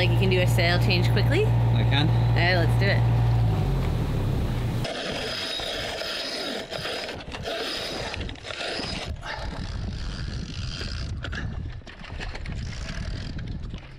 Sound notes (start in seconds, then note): 5.0 rope winding; 9.8 winch clicking